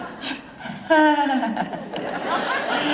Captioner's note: nervous laughter